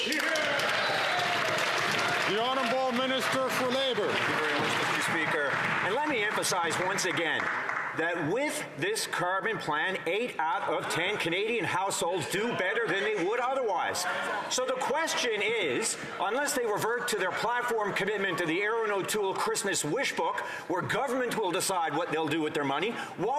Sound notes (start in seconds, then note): 6.5 some Applause